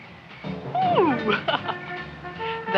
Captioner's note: laughs